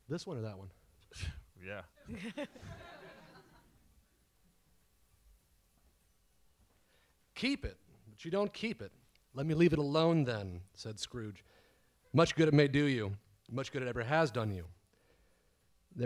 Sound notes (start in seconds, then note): 2.0 audience laughs